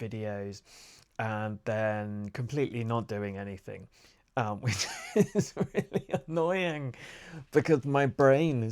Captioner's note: more self laughter